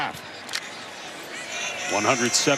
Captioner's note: roars